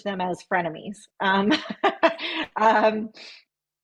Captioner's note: laughs